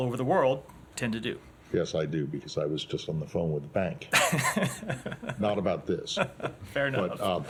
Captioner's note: laughter